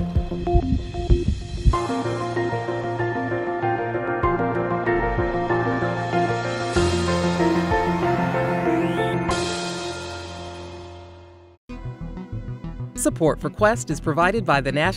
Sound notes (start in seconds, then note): 0.0 heart beating